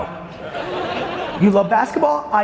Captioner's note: audience laughs